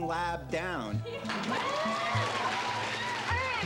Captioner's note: crowd applauding